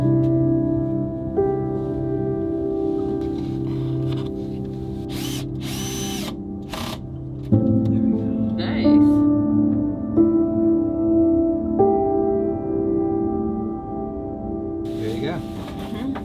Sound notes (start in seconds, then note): 5.0 drill whirs